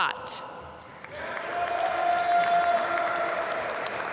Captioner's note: applause